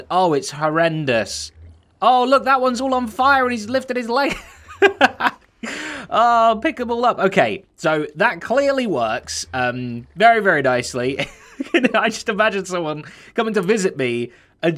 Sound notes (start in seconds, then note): 4.2 laughs; 11.0 chuckles